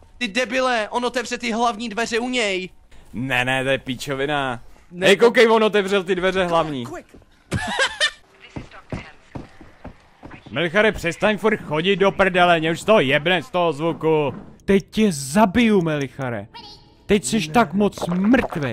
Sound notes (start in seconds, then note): 8.4 stepping sounds